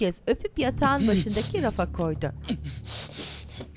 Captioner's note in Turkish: Nefes sesi